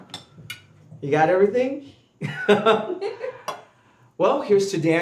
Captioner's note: laughing